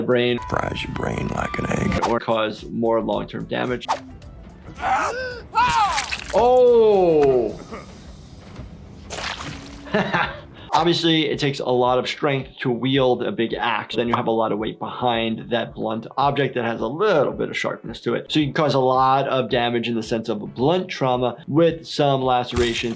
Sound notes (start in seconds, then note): 4.8 character screams; 5.7 blood sloshes; 9.0 blood sloshes